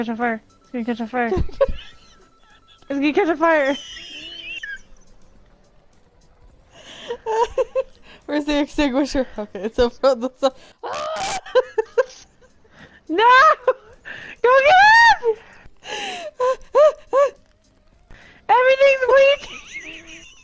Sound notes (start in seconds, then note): 4.2 laughing; 10.8 scream; 16.0 panicked laughter; 19.1 laughing